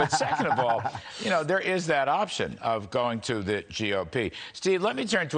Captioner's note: laughter